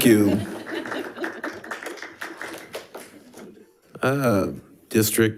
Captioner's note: attendees laughing and clapping